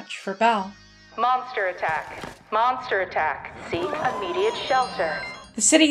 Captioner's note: phones ringing and dinging